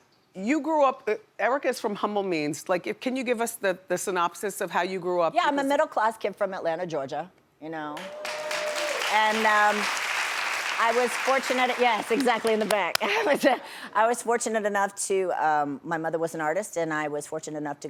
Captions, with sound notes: Erika is from humble means. Can you give us the synopsis of how you grew up? Yeah, I'm a middle-class kid from Atlanta, Georgia. (audience cheers) (audience applauds) And I was fortunate, yes, exactly in the back. (laughs) I was fortunate enough to, my mother was an artist and I was fortunate enough